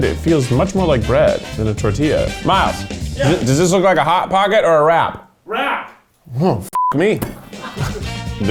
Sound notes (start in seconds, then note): 6.7 beep